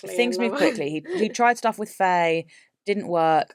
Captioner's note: laughs